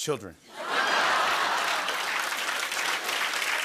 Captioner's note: applause